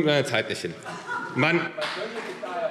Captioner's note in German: Lachen